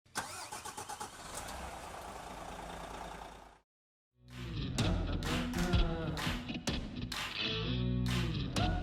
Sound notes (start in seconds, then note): 0.1 coach motor starting; 4.4 upbeat rock music plays